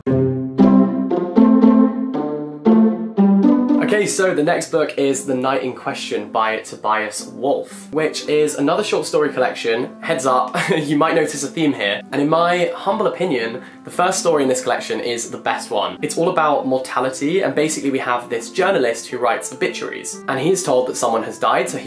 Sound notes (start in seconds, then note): 0.1 jaunty music; 10.5 chuckles